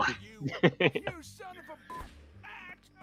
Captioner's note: gunshot